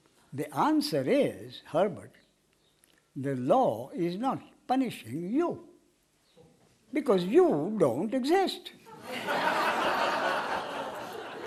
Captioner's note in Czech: smích